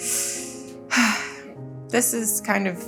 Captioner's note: Jordyn sighs